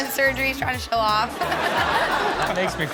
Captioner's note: everyone laughs